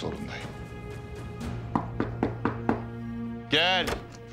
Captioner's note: door knocking sound